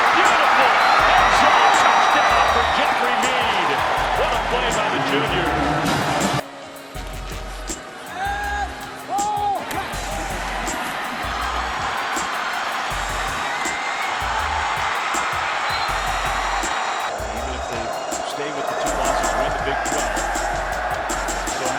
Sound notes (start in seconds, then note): 8.2 shouting; 14.9 cheering